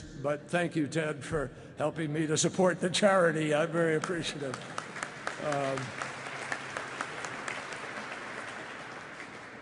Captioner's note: applause